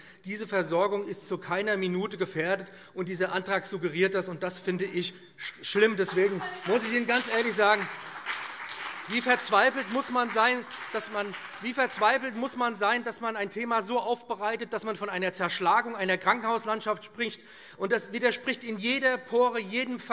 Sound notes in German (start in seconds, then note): 5.9 Beifall BÜNDNIS 90/DIE GRÜNEN und CDU - Zurufe SPD